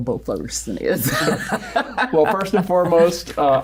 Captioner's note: laughing